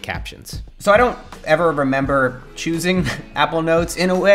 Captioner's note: laughs